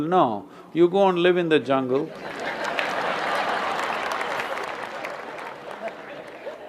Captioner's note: laughter/Applause; 笑聲/掌聲